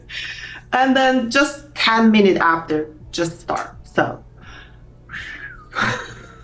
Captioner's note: whistles